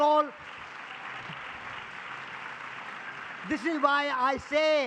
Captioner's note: public applause